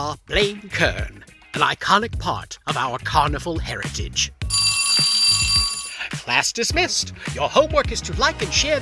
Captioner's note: sound of schoolbell